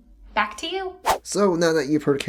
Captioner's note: whoosh